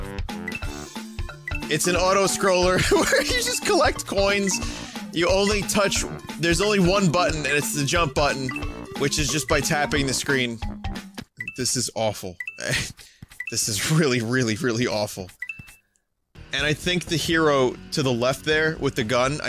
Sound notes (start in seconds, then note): 2.8 laughs